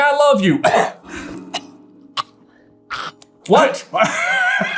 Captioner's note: cough hack gag; inconspicuous cough; laughter